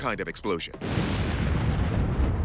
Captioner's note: loud blast